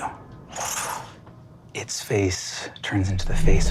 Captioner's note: mimics air whooshing